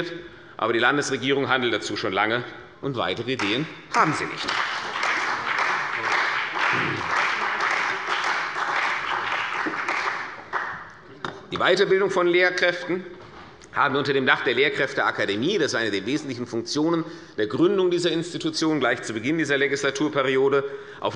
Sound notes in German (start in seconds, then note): 3.9 Beifall bei der CDU und dem BÜNDNIS 90/DIE GRÜNEN